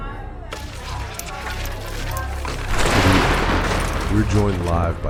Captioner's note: electric light sparking